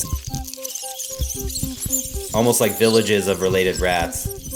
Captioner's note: soundbite of rats squeaking